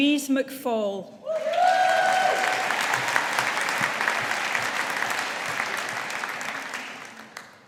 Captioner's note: audience applauding